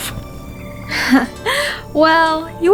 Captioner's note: Muse chuckles